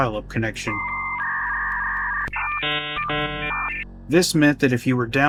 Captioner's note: dial up internet sound